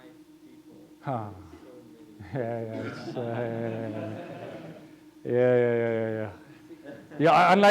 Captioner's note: laughing